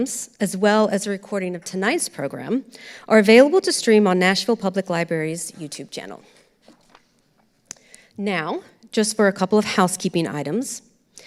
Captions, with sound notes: as well as a recording of tonight's program, are available to stream on Nashville Public Library's YouTube channel. (papers rustling) Now, just for a couple of housekeeping items.